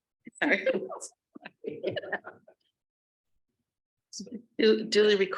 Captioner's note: group laughing